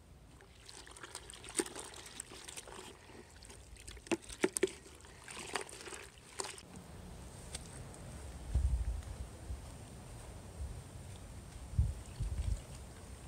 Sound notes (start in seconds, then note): 0.0 wind; 0.3 water splashing; 8.0 wind; 11.5 water splashing